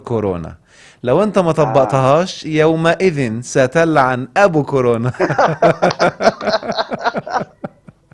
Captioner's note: sarcasm!